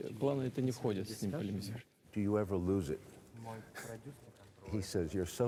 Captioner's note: chuckles